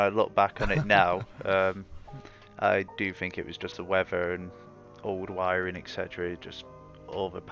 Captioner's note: laughter